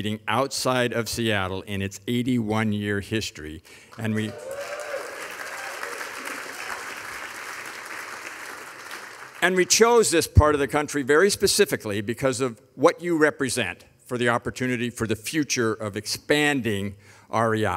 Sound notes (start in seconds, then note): 3.9 audience applauding; 4.0 audience cheering